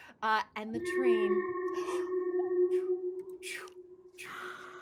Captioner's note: spooky noise